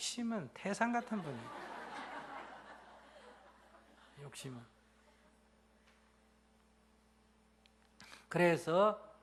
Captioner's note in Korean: 청중 웃음